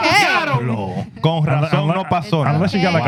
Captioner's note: speaking Foreign Language